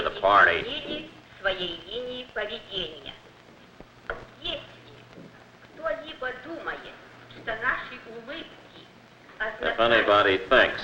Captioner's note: female speaking foreign language